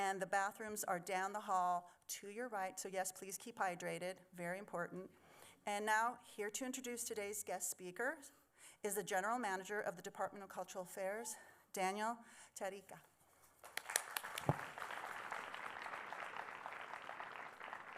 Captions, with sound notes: The bathrooms are down the hall to your right, so yes, please keep hydrated. Very important. Now, here to introduce today's guest speaker, is the general manager of the Department of Cultural Affairs, Daniel Tarica. [applause]